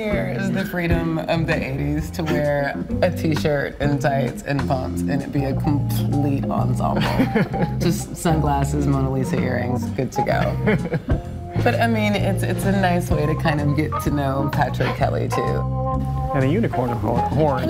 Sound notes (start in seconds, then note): 7.0 laughs; 10.4 laughing